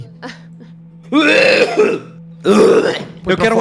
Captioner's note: vomiting